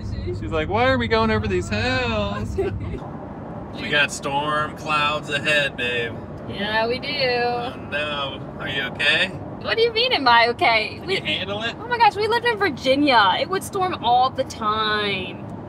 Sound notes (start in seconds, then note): 2.3 both laughing